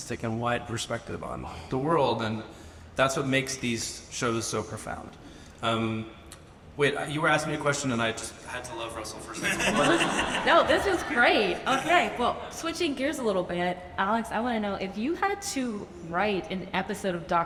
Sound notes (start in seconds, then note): 9.4 audience laughs